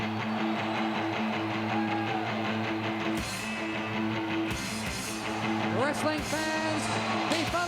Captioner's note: crowd cheering